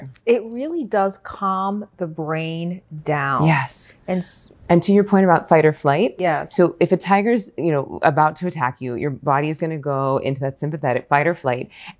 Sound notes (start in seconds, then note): none